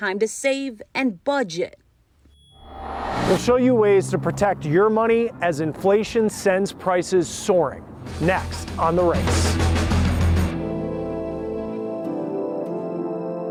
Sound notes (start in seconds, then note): 2.5 scene whooshing; 10.6 gentle music